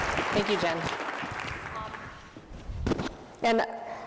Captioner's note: audience applauds